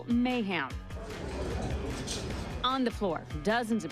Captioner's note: shoppers murmuring